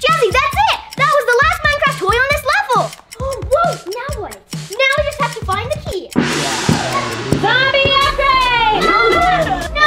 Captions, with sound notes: Jazzy, that it! That was the last Minecraft toy in this level! Now what? Now we just have to find the key! [gong sounding] Zombie upgrade!